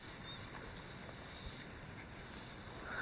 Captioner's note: birds singing